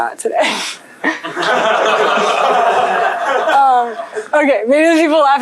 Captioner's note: laughter